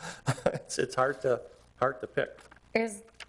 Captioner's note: chuckles